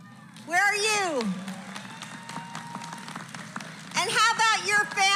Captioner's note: applause